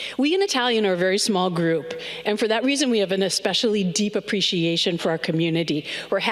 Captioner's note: none